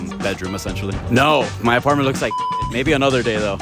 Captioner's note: beep; funky music